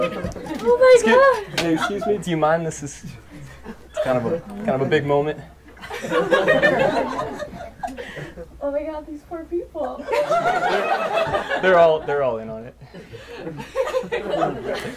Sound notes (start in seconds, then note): 5.7 laughter